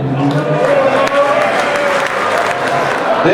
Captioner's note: crowd applauding